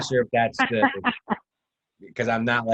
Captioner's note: laughs